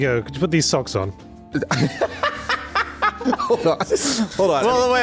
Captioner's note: laughs